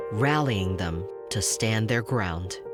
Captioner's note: none